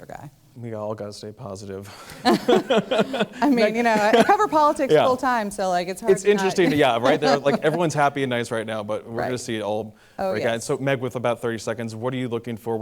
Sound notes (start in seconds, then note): 2.0 laughter